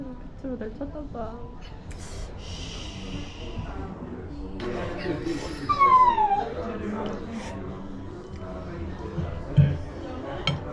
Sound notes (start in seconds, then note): 5.7 continues to cry